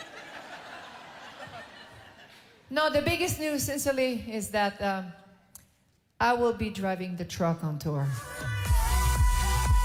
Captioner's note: laughter